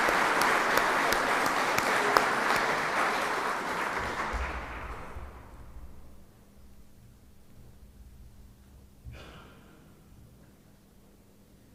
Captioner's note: applause